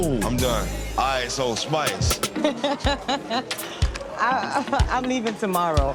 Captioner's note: laughing